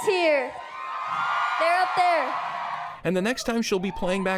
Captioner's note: crowd cheers